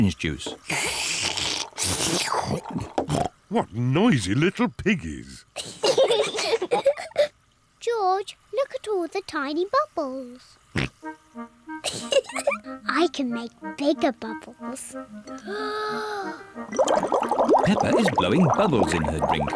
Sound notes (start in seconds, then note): 0.7 both slurping; 5.8 both laugh; 10.2 oinks; 11.9 giggles; 15.0 takes big breath